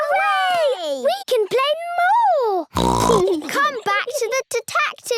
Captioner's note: snorts